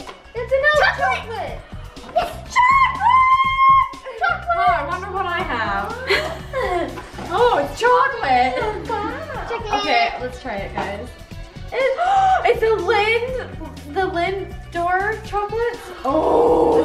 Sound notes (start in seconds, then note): 11.7 gasps